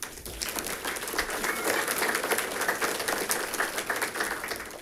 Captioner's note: audience applauding